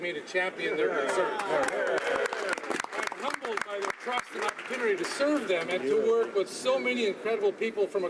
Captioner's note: some Applause